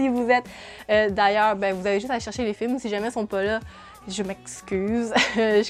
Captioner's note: laughs